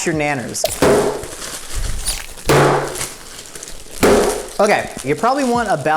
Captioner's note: clattering loudly